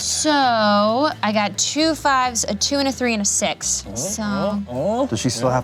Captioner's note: none